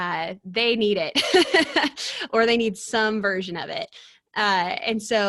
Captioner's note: chuckles